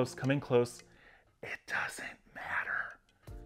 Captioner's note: whispers